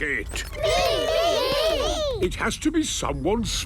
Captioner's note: calling out in turn